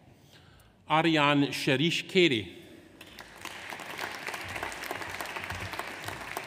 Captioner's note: audience applauds